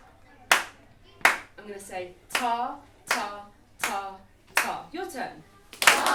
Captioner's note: rhythmically and clapping; clapping; children rhythmically and clapping